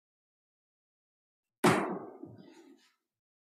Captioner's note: gavel bangs once